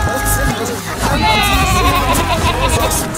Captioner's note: laughing